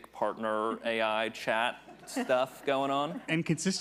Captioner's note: attendees laughing